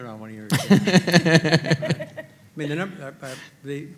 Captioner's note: panelists laughing